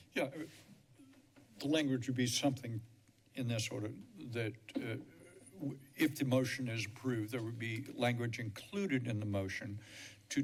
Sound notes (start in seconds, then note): none